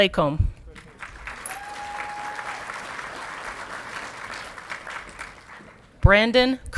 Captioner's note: audience clapping and cheering